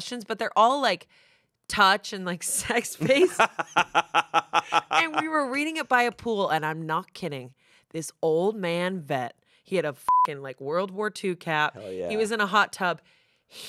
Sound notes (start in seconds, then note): 2.9 laughs; 10.0 beep